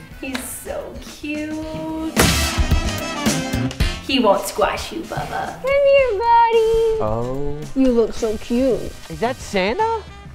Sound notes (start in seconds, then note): 2.2 thud